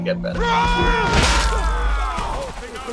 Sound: shouting

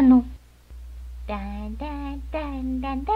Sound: Pink humming

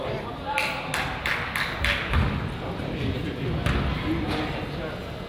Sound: team claps

